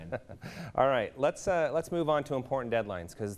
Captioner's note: laughing